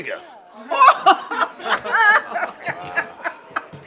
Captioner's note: laughter